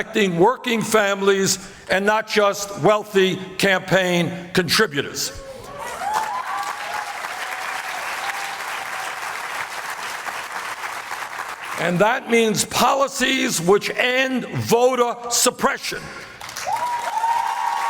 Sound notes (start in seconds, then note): 8.3 applause; 16.3 applause